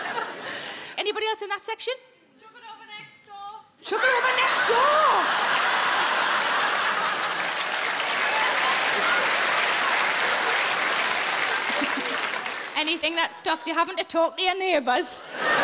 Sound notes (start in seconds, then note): 7.0 audience laughing